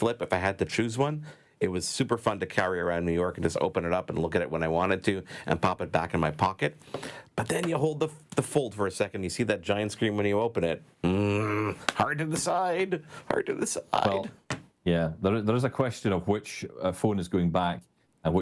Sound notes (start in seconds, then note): 11.0 grunts